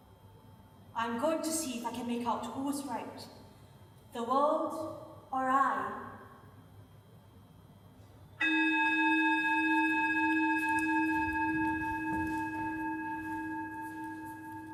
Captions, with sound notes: I am going to see if I can make out who's right. The world? Or I? [Reverberating sound of a bell struck once]